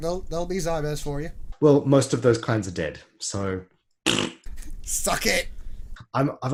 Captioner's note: blows raspberry